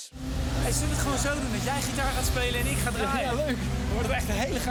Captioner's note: speaking in foreign language